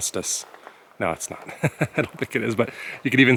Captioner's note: laughter